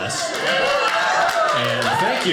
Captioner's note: audience cheering